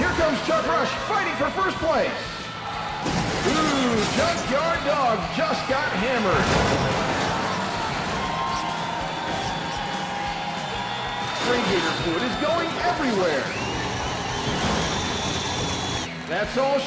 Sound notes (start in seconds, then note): 6.6 buses crashing; 8.0 crowd cheering; 14.0 crowd whistling